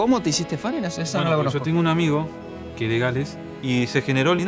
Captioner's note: in Spanish